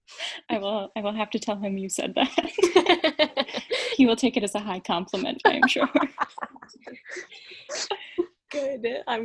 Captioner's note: laughing